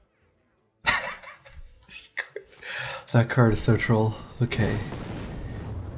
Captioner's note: laughs